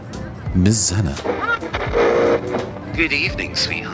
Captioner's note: radio Tuning